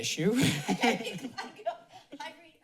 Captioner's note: laughter